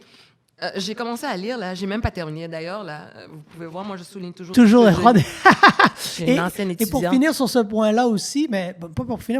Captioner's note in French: rires